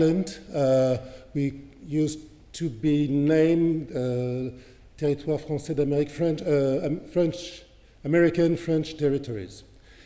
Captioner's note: french